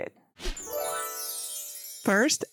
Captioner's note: screen whooshes; stars chiming